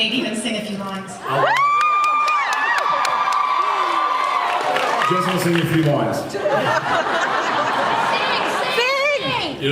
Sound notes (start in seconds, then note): 1.2 cheers; 6.4 laughs